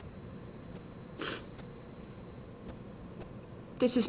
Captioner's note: sniffles